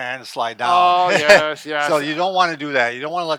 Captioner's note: laughs